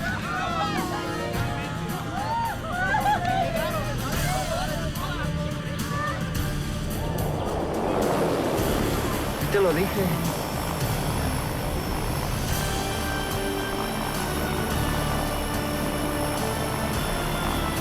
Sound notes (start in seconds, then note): 0.8 group speaking in foreign language; 9.6 Jose speaking in foreign language; 12.8 upbeat music